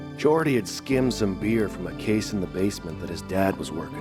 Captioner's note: none